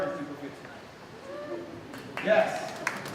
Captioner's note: clapping